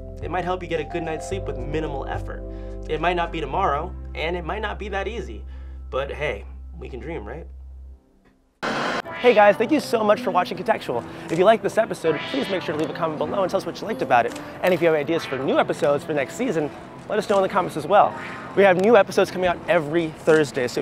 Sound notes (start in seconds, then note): 8.6 white noise blares; 9.3 reflective music